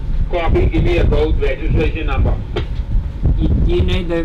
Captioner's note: garbled voice on radio